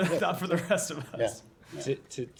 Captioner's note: laughter